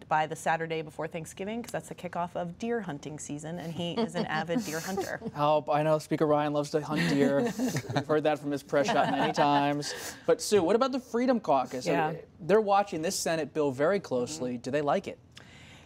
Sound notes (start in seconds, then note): 3.9 laughter; 8.7 laughter